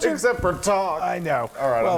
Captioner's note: laugh